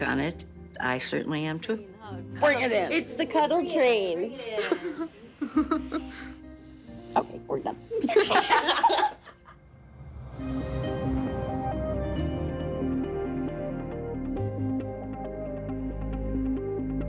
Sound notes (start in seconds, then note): 8.0 everyone laughing; 9.6 dramatic music